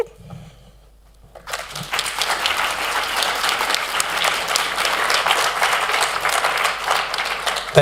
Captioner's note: applause